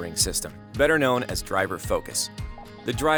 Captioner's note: quiet electronic beeps